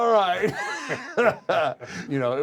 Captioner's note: laugh